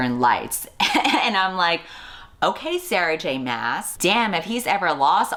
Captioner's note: laughs